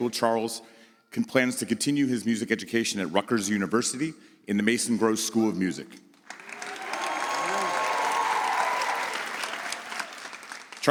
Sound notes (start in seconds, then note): 6.2 audience applauds